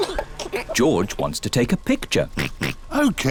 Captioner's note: giggles; oinks